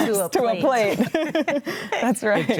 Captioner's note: group laughs